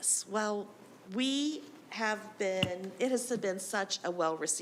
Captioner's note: none